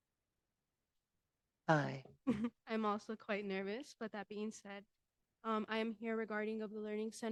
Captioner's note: giggle